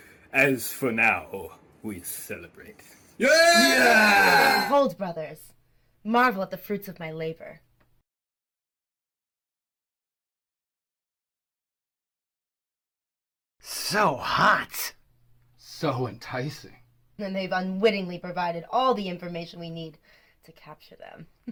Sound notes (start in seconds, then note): 3.2 all cheering